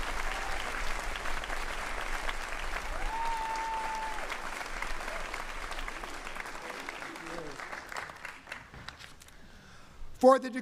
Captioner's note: cheering and applause